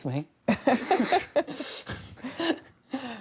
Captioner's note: laughter